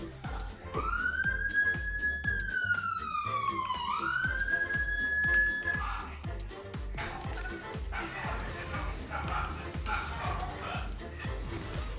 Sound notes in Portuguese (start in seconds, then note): 0.5 sirene